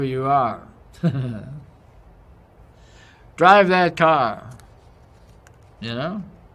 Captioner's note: laugh